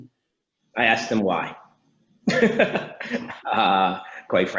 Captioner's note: laughs